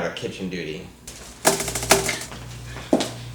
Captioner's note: finger tapping